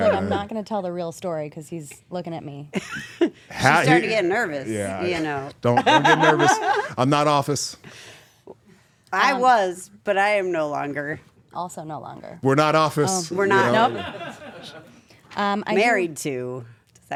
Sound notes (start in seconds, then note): 5.8 laugh